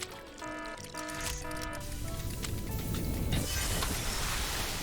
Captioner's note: alarm blaring; big explotion